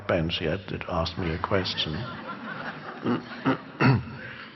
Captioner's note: crowd laughs